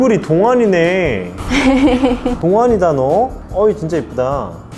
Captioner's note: laughs